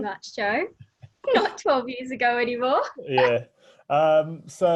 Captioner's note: laughs